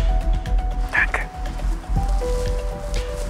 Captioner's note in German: flüstert